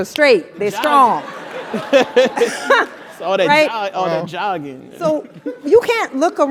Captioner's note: laugh